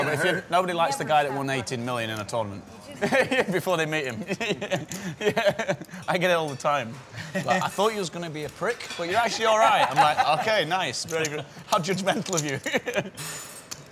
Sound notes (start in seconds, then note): 4.2 laughs